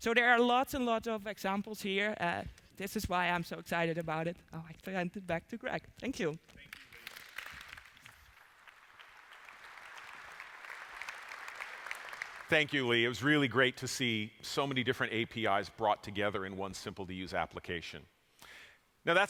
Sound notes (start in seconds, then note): 6.6 applause